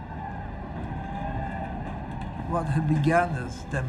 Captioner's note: crowd shouting